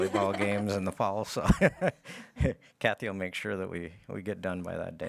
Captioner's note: laughs